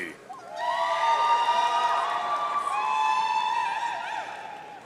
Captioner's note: audience cheering